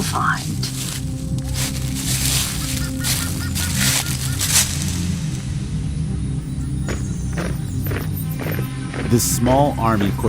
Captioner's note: soundbite of footsteps